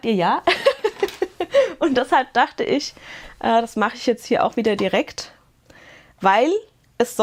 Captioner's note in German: Gelächter